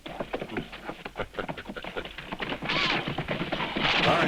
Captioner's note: Lucky laughing